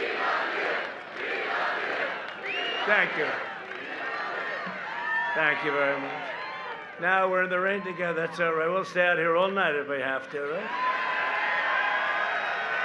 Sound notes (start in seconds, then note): 0.0 crowd chanting